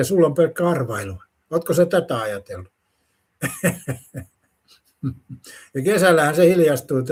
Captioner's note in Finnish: naurua